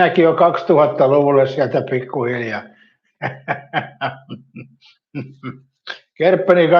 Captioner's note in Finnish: naurua